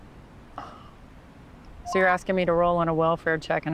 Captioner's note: radio beeps